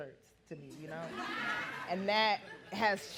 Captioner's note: audience laughing